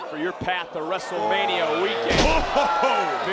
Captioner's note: body thudding